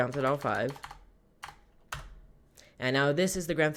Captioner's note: typing